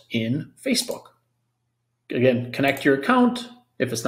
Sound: mouse clicks

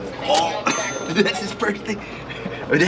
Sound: register dings

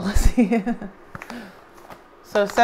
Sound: laughs

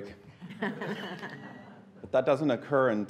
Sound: laughing

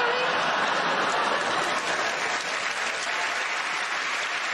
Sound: audience cheers

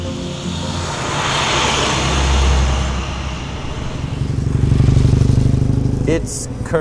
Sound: engine sounds

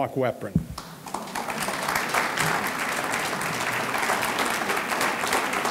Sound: audience clapping

